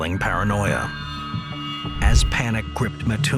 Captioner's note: dramatic sound effect